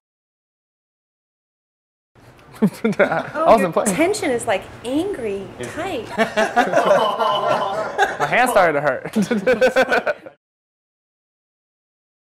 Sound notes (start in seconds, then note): 5.7 the men laugh; 9.6 laughs